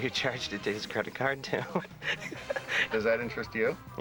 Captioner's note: laughs